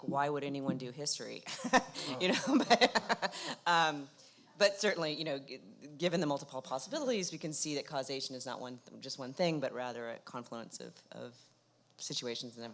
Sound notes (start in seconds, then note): 1.6 laughs